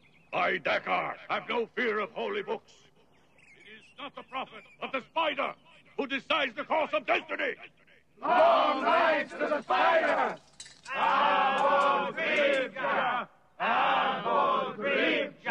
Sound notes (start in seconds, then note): 10.8 men chanting